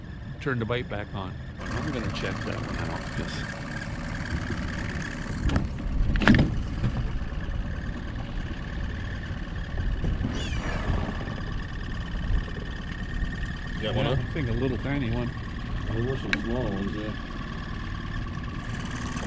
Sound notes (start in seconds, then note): 2.1 boat engine running; 5.9 squeaking